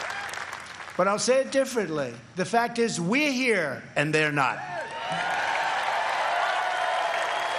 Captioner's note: applause